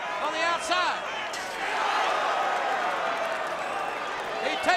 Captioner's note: crowd cheering